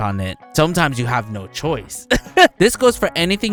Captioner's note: laughs